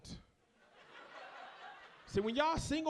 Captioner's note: audience laughs